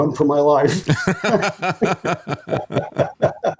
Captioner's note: laughing